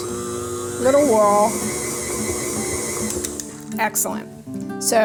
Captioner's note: blender whirling